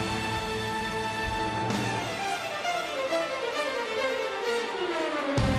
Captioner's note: applause